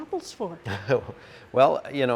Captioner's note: laughing